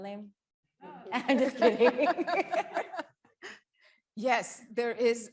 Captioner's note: chuckles